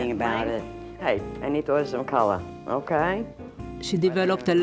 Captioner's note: on the telephone